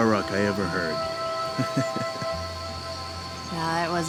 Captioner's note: officer chuckles